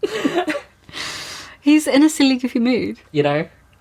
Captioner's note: laughing